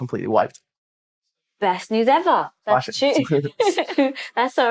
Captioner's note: laughter